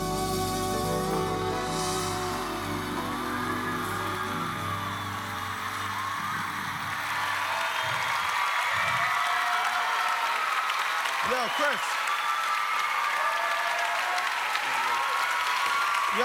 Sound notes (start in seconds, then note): 4.1 cheers and applause